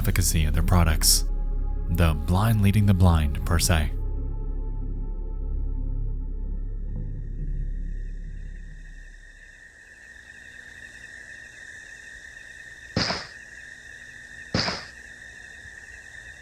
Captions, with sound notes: of their products. The blind leading the blind, per se. (crickets chirping) (footsteps thudding)